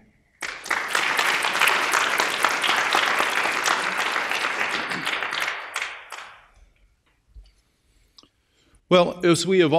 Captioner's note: applause